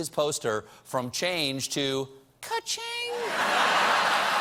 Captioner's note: laughter; applause